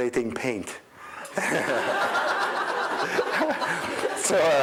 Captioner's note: crowd laughing